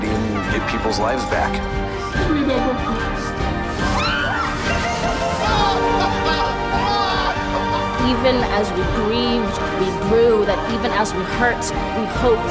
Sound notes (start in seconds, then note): 1.5 speaking tearfully; 4.5 laughing and crying happily; 7.8 Amanda Gorman speaking